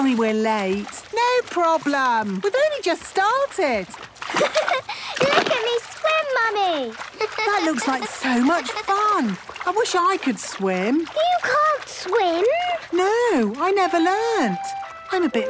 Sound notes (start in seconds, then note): 4.3 giggles